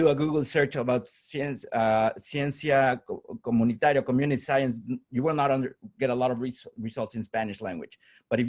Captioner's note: spanish